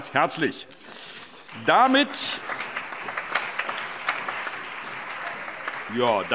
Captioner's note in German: Allgemeiner Beifall